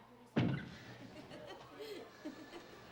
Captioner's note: laughing